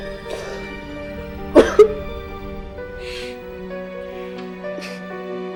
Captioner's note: sobbing